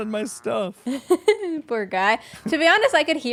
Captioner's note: laughs